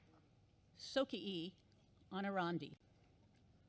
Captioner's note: non-english speech